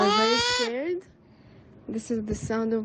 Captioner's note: child crying